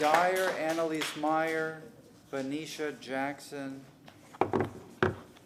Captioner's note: applause